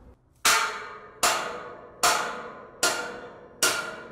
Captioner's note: metal banging